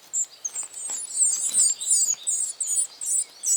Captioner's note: babies chirping